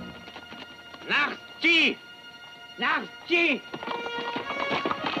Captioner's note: Delgadito speaking foreign language; dramatic music